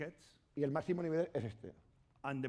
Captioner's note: speaking spanish